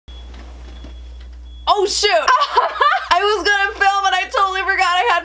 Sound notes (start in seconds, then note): 2.2 laughing